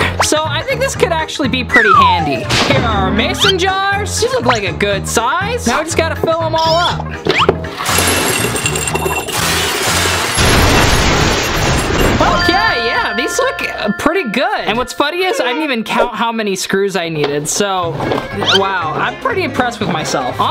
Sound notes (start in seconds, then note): 8.0 rumbling sound; 12.4 honking sound drowns speaker